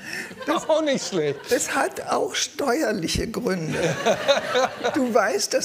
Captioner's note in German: Lachen